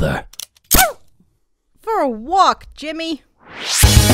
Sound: yelp

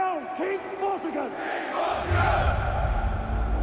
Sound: crowd

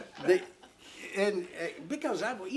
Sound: laughing

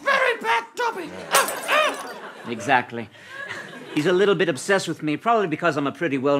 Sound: glass breaks

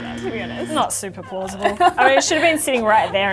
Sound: laughs

